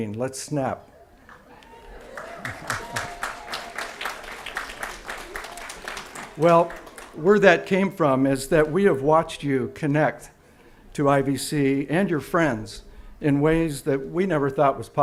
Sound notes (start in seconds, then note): 1.2 applause